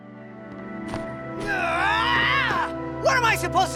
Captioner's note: screams